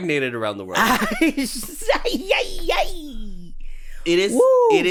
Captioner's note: giggling